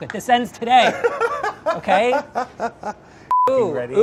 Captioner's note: laughs